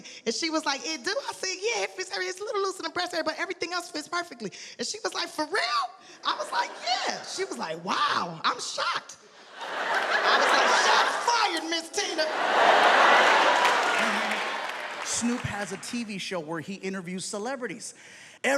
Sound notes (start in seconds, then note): 9.4 audience laughs